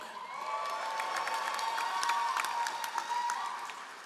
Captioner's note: all applauding